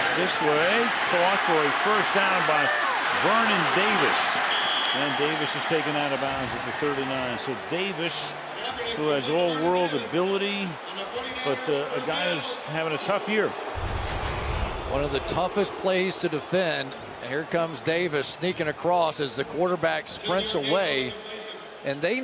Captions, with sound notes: Comes back this way. Caught for a first down by Vernon Davis. [whistle] And Davis is taken out of bounds at the 39. So Davis, who has all world ability but a guy who's having a tough year. [booing] One of the toughest plays to defend. And here comes Davis sneaking across as the quarterback sprints away.